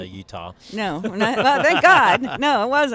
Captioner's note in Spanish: Risas